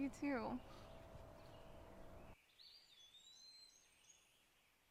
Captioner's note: birds chirping